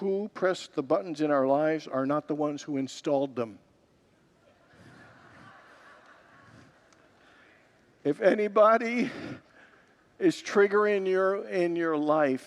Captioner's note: congregants laugh